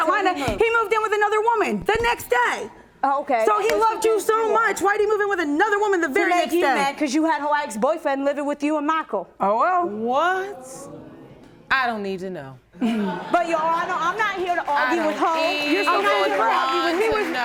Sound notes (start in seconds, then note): 12.8 audience laughing